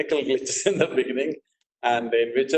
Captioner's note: laughs